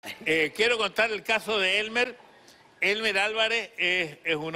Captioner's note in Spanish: risas